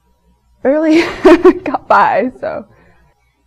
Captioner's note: laughs